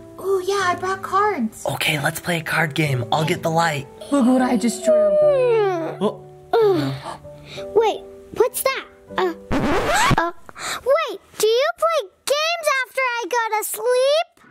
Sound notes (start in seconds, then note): 4.2 Chelsea yawning